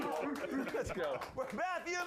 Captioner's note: audience cheering